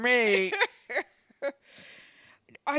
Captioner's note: Leia cackles